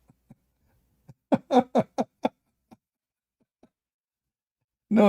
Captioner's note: Ketawa